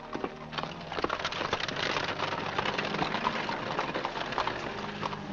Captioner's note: organ plays; carriage rattles away; hooves trotting; organ plays